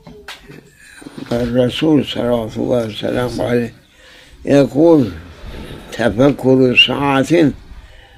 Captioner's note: saws